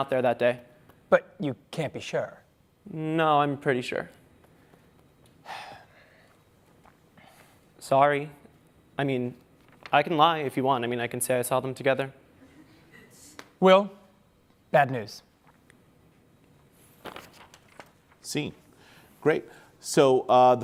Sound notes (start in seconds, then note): 3.4 sighs